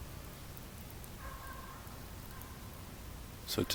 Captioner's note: a good boy borfing in the background